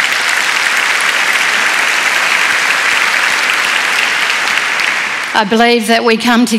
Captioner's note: applause